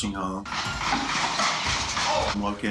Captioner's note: gunshots